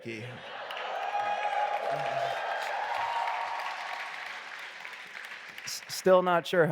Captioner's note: audience applauding and cheering